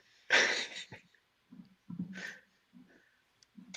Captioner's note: laughing